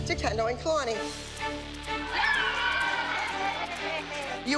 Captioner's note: cheers, applause